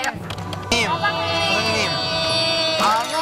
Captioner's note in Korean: 스윽